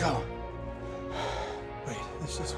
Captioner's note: sighs